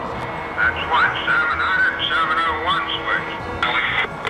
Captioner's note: voiceover